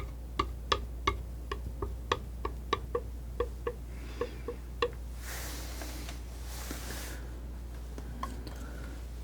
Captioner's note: tapping